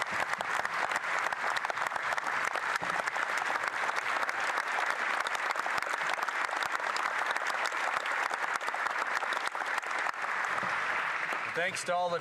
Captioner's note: applause